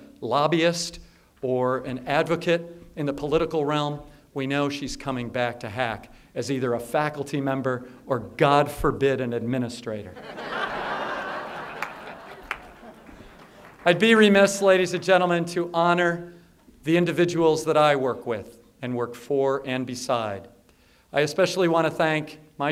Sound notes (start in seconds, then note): 10.1 laughter